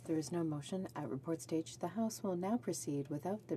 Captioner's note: speaking French